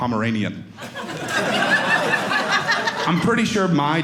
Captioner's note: audience laughing